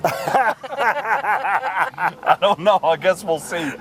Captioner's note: laughter